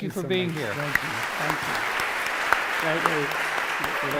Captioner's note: applause